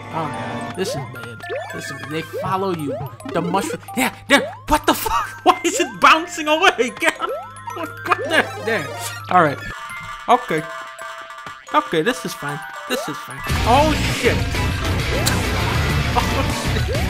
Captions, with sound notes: Oh, god. This is bad. This is- They follow you. The mushroom- Yeah! Yeah! What the fuck? (Laughing) Why is it bouncing away? (Laughing) Get up! (Laughing) What- What the-? There! Alright! Okay! Okay! This is fine! This is fine! Oh, shit! (Chuckles) Oh, shit...